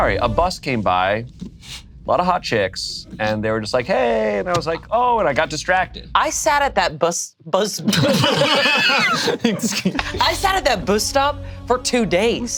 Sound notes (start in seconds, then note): 7.8 group laughs